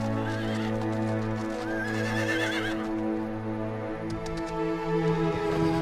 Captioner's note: neighing